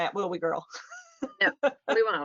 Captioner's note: laughs